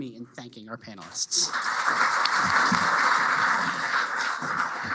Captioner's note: applause